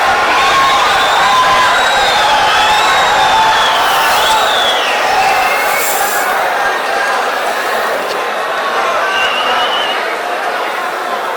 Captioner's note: wild applause and cheering for 22 seconds